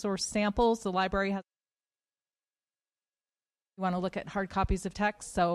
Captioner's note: mic cut